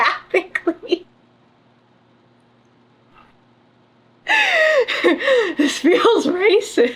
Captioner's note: laughs